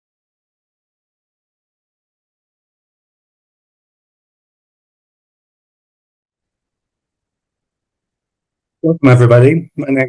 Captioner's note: silence